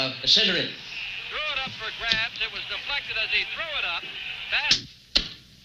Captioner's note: TV blaring announcements